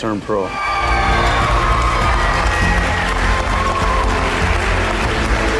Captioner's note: audience cheering and applauding